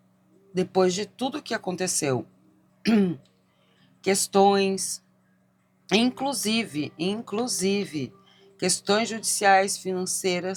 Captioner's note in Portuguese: limpando a garganta